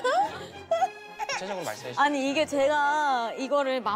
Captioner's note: sob